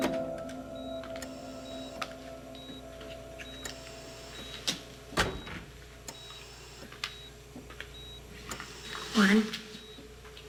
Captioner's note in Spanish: Bip del monitor